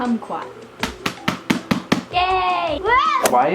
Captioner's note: clapping